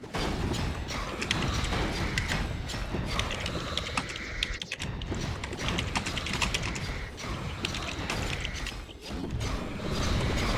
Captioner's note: typing sounds again